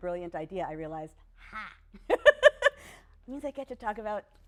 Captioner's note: laughs